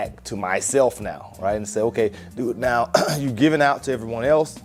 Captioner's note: coughs